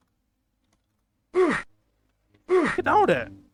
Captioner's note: meatbeating sfx